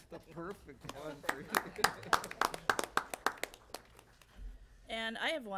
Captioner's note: applause